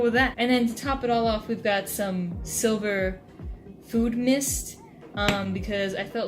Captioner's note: tap